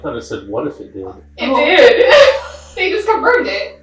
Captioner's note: laughing